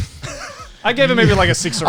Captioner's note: all laughs